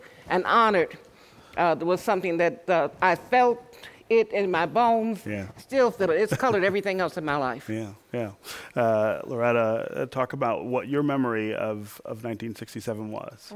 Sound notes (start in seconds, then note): 6.2 laughter